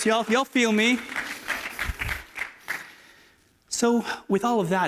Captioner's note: applause